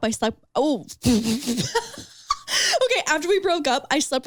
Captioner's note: laughs